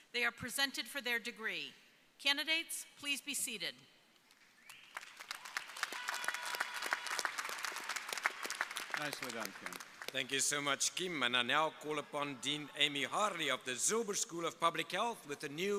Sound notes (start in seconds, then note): 4.6 crowd applauding; 4.9 crowd cheering